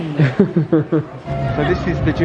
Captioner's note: laughing